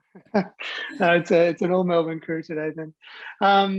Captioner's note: laughs